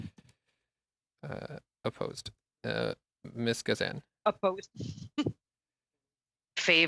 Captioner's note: speaking French